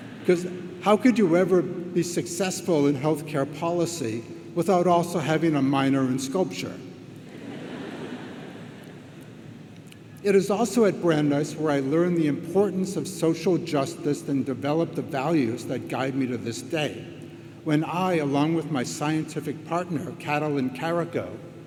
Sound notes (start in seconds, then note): 0.0 audience laughs; 7.3 audience laughs